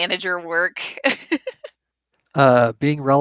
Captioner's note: laughs